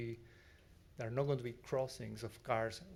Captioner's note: none